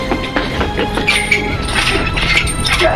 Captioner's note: gate clangs